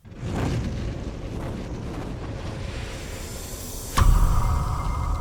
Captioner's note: bird wings flapping